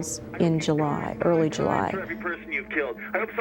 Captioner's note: on phone